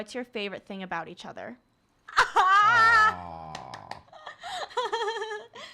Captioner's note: claps; laughs